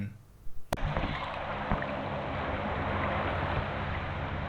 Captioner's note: sound of sea waves